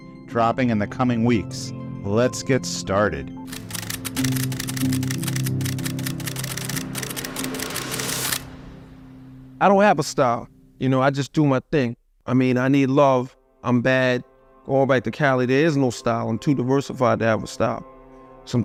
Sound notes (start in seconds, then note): 3.0 tranquil piano music; 3.5 camera shuttering